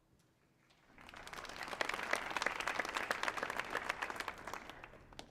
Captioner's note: audience applauding